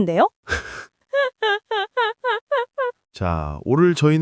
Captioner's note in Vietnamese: Tiếng cười